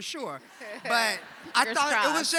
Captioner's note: audience laughing